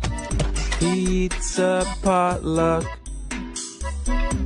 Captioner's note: door Creaks